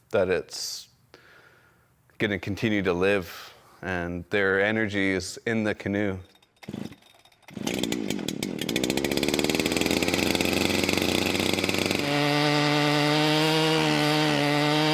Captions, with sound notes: that it's gonna continue to live. And their energy is in the canoe. (motor tuning over) (tool buzzing)